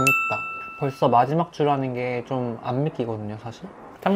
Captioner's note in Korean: 종소리